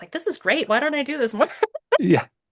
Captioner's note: laughs